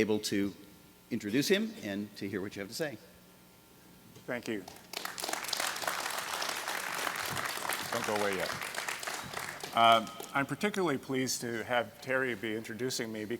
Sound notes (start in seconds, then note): 4.6 applause